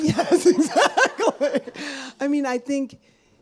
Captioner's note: laughs